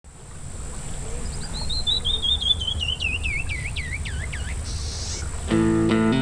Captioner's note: bird song